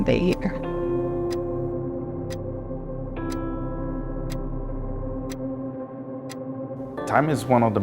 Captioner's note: clock ticking; gentle music